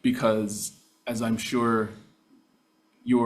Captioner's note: none